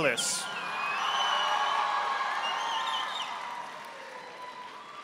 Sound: audience applauding

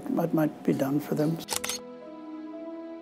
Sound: slow music; camera shutter snap

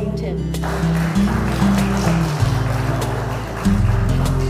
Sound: applauding

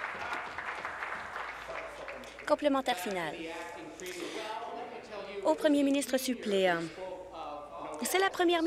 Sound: applause

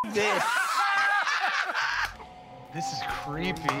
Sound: laughter

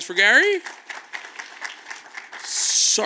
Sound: audience claps

